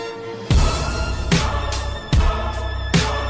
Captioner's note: chanting